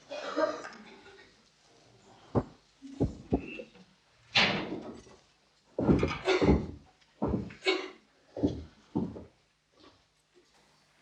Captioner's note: laughter